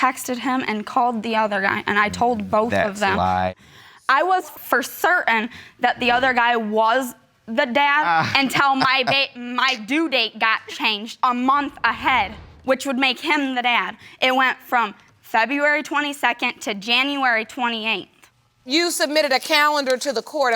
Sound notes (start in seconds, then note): 8.0 laughs